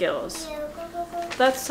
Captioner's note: Babbles